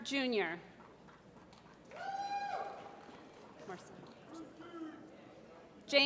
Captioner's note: applause